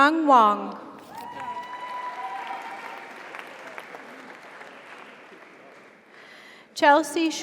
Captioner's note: audience cheers; audience applauds